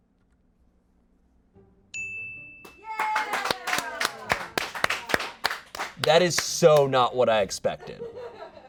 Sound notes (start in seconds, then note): 1.9 bell dings; 2.6 audience applauding